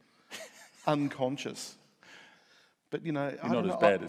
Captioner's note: laughs